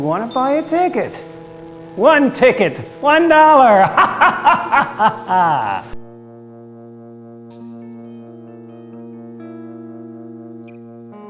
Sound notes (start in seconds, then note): 3.1 laughs maniacally